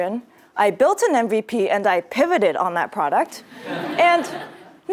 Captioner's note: laugh